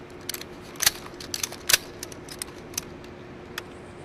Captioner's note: rifle clicking